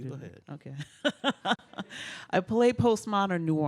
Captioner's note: laughs